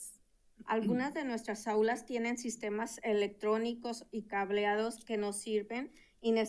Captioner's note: speaking in Spanish